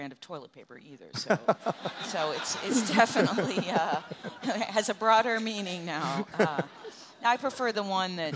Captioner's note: audience laughter